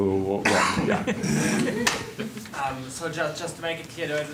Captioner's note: laughter